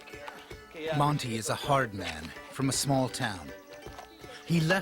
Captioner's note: voiceover